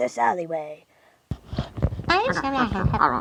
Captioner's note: muttering